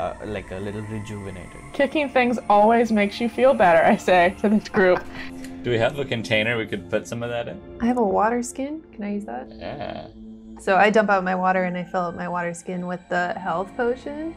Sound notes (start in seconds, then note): 4.8 laughter